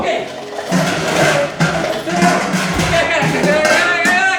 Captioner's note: objects clattering